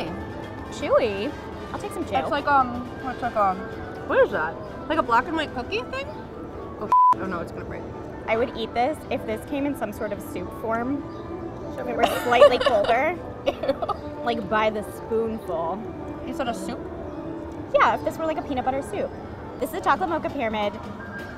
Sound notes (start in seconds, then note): 6.8 beep; 12.0 laughs